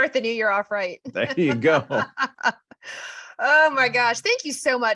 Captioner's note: laughs